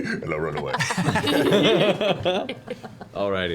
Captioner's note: laughter